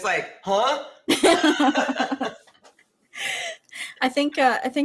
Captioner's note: women laughing